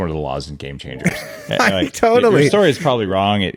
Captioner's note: laughs